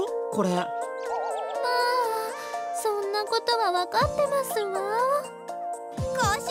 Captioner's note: sigh